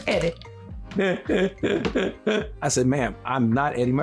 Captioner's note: laughing